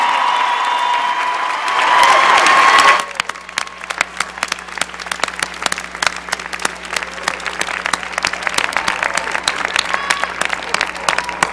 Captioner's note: cheering and applause